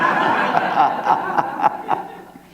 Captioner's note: laughter